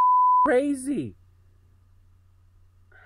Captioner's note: beep